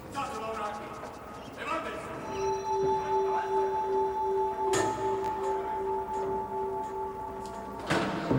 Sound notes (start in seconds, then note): 0.6 man speaking foreign language